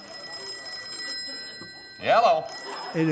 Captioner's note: phone ringing